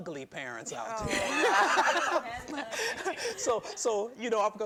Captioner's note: chuckling